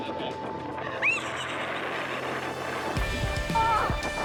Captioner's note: screams and laughs